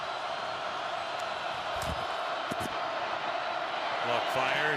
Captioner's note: crowd cheering